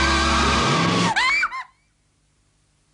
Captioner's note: shoutings